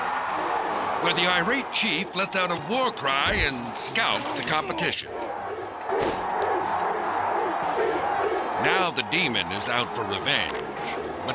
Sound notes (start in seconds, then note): 6.0 crowd cheering